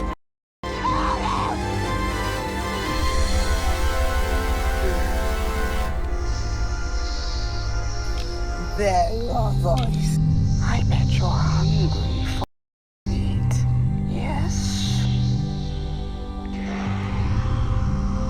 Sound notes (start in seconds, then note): 1.8 dramatic music; 6.0 snake hissing; 14.4 dramatic music